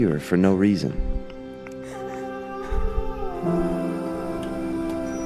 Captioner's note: soft crying